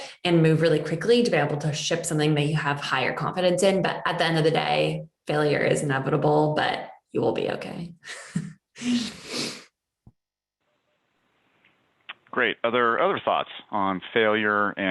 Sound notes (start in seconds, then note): 8.4 laughs; 8.9 sniffs